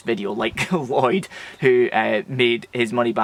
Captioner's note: chuckles